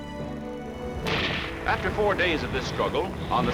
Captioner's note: gunfire